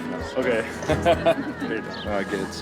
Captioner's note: chuckle